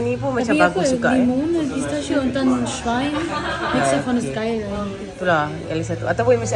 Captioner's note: speaking German